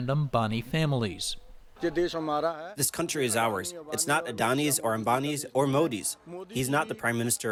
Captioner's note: through translator